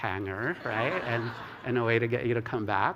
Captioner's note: laughter